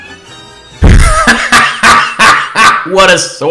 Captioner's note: laughs ass off